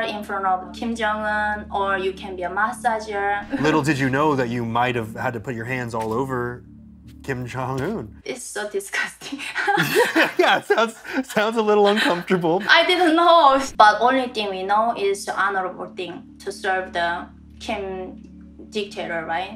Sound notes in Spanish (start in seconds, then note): 9.6 risas